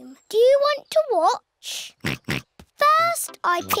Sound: snorts

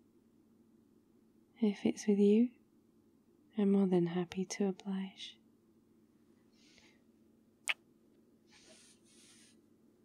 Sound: kiss

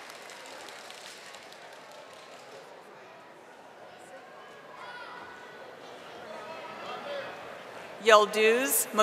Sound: audience applauding and cheering

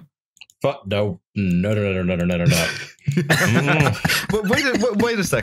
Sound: laughter

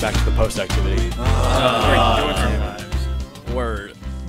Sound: collective sighing

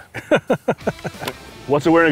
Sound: laughter

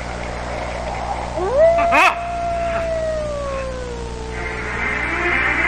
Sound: coyote howls; gasps

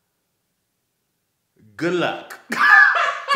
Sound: laughs

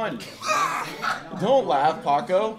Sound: laughing

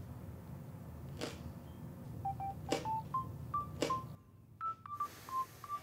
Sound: mobile phone rings

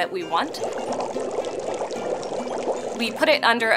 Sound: bubbling

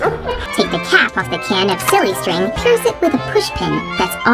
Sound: funny voice

